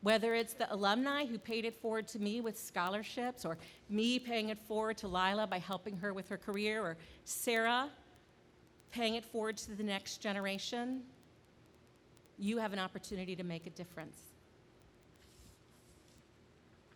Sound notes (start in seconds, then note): none